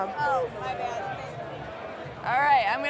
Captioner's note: group chattering